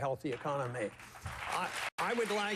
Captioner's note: applause